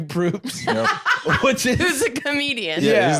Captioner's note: laughs